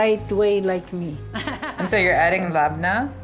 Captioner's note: laughs